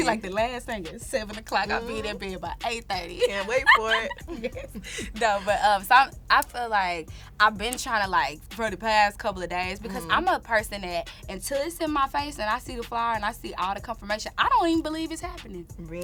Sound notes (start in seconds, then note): 2.9 laughs